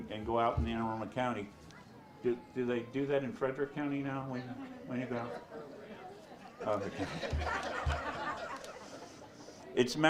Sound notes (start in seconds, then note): 6.0 audience chatters; 9.8 audience laughs